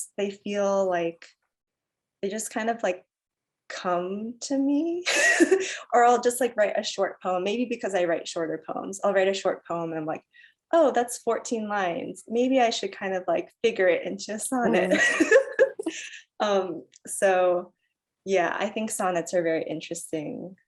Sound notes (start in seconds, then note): 5.1 chuckles; 14.7 laughs